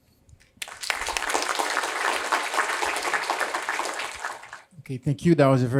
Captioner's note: applause